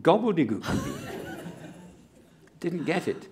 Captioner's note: laughter